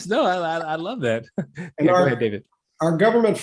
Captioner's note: laugh